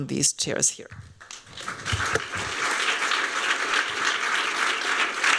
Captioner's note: applause